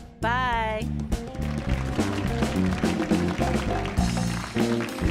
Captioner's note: audience applauds